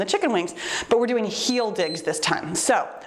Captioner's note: timer beeps